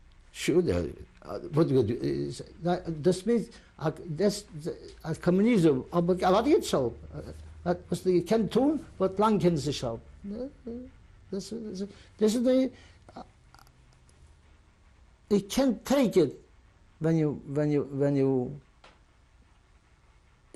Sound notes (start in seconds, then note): 8.3 non-english